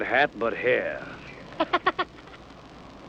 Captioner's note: giggles